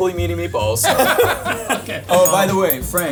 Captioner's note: both laughing